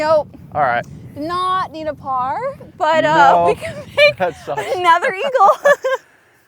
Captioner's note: laughs